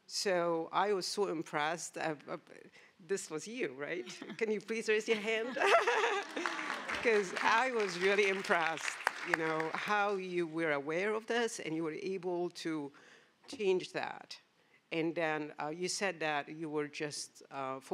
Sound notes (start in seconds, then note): 5.5 laughs; 5.7 applause